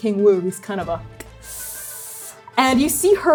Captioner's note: strained inhale